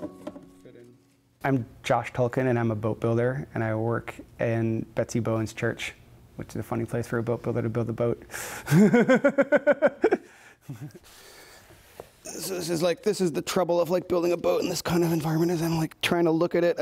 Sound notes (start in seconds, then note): 8.7 laughs